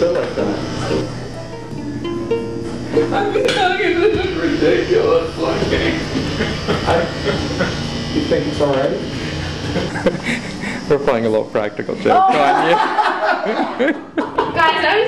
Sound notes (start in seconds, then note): 3.4 sobbing; 9.4 cameraman laughing